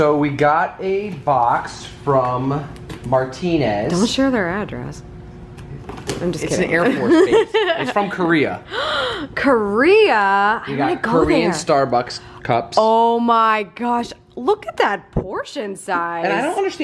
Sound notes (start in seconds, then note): 7.0 laughs; 8.6 gasps